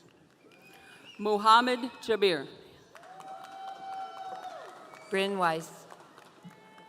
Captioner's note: audience cheering